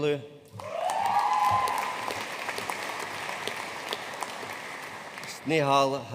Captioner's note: audience cheering and applauding